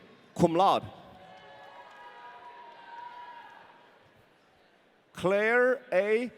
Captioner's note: audience cheering